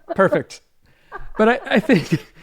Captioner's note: laughs